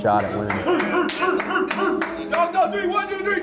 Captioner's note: player clapping; McClung cheering